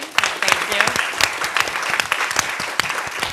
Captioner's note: applause